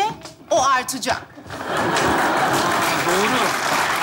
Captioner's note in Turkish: Alkış sesleri